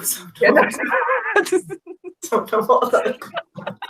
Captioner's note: laughing